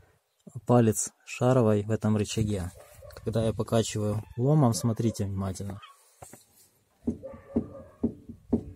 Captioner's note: a knock is heard